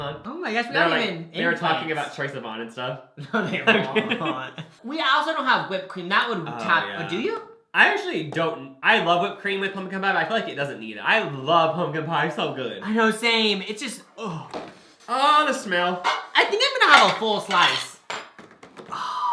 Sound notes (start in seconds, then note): 3.2 both laugh; 14.2 sighs in pleasure; 18.9 sighs in pleasure